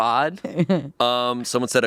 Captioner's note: chuckles